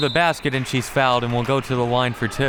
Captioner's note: whistle